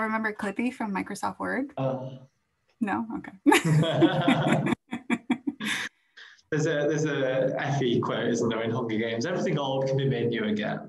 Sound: laughs

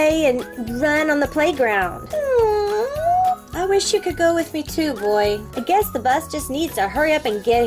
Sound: dog whining

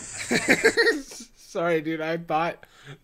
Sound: laughs

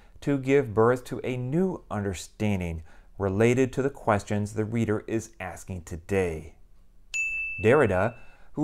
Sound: chime

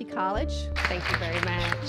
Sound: audience clapping

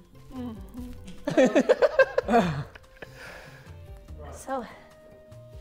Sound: Tobi laughing

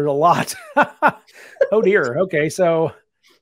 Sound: both laughing

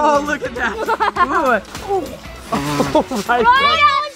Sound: laughs

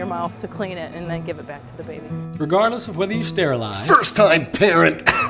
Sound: coughing

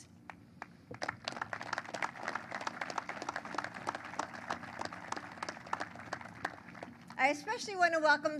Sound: applause

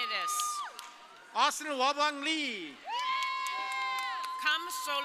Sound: audience cheering

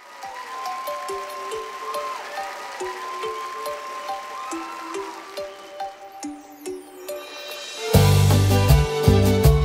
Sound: Aplausos, gritos y sintetizador

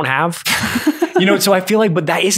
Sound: man laughs

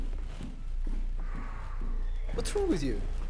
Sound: sighing

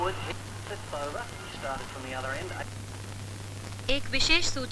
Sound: cricket commentary

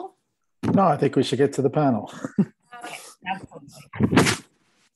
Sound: chuckles

